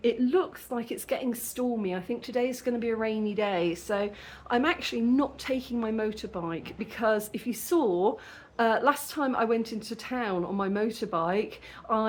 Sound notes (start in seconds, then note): none